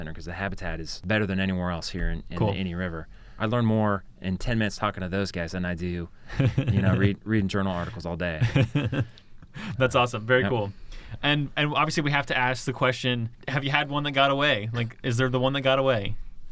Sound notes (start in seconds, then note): 7.7 laughs